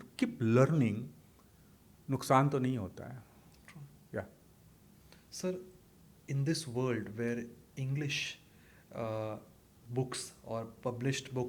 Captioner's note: hindi